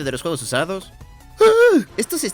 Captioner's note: sigh of horror